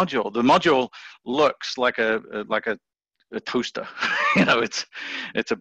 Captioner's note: laughs